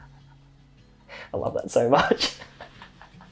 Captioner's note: laughs